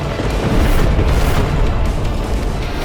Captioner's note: explosion